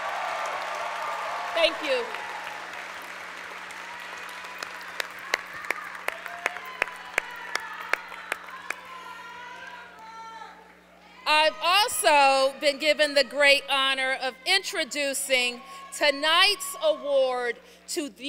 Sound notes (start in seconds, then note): 0.0 applause